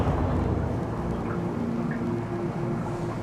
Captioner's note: water bubbling